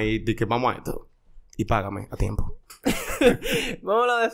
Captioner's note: laughs